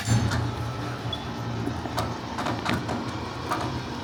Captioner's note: machine clanking